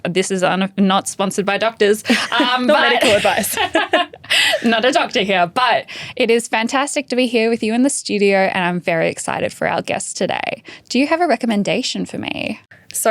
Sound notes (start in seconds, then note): 2.1 laughs